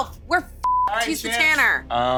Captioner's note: beep